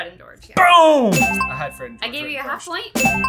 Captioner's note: bell dings